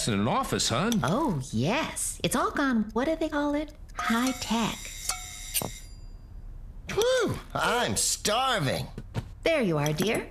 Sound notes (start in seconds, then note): 4.0 timer Rings